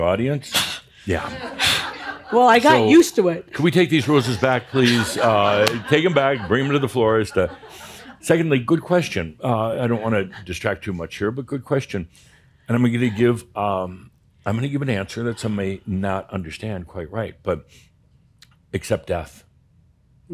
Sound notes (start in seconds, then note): 3.4 some chuckles; 4.2 laughter